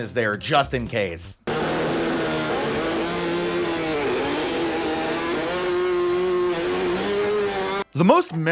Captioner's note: blender Noises